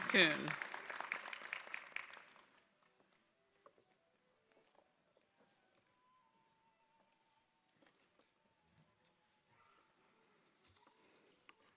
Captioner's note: applause